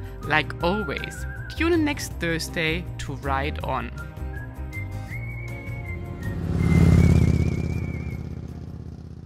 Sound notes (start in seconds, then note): 4.1 mellow music; 5.5 motorcycle engine revving